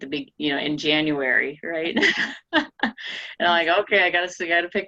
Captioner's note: laughing